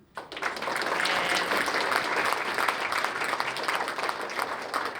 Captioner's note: applause